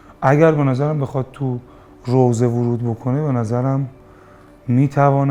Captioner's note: lamentation